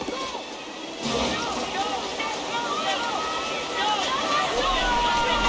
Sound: water flowing

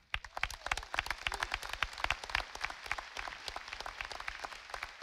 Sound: audience applauding

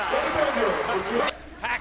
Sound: crowd cheering

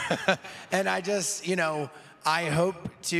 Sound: laughing

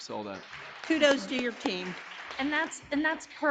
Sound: audience applauding

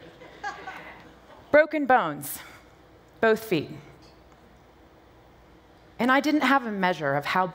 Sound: laughter

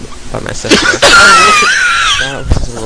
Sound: gasps in laughter

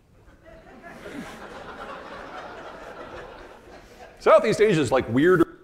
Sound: audience laughing

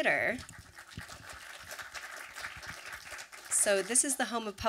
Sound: audience applause

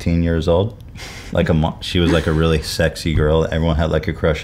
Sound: snickers

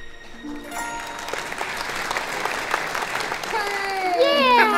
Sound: applause

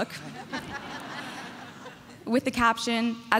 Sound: audience laughing

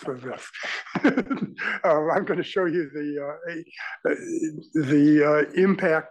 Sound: laugh

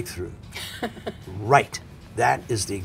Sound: laughs

